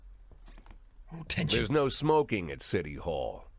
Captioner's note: whispers